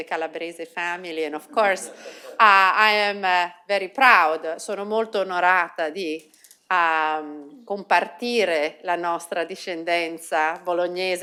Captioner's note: speaking italian